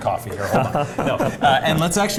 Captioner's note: laugh